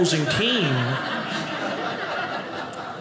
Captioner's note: audience laughing